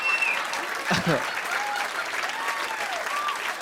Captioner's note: chuckles